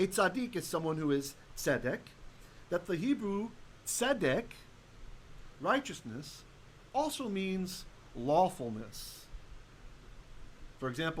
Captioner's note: Hebrew; Hebrew